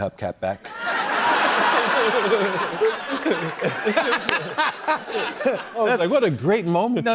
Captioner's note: laughter